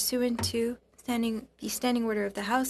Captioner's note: speaking French